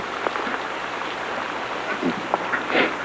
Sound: sniffs

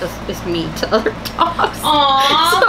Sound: laughing

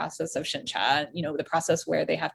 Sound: speaking in Mandarin

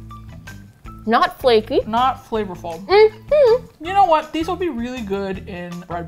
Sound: hums in thought

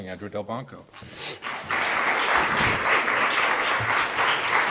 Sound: applause

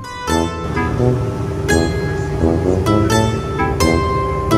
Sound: plane engine roaring

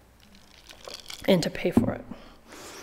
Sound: ice clacking

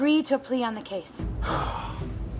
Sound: sighing

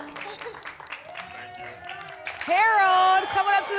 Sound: applause and cheering

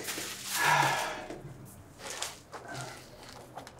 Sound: Flavio sighs

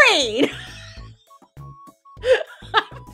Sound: laughs

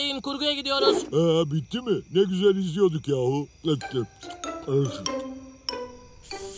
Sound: eating

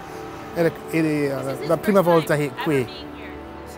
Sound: speaks Italian

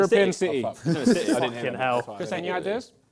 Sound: both mumbling

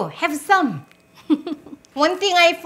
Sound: laughs

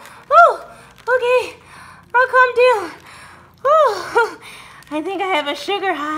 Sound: panting

